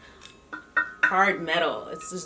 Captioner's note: plate dings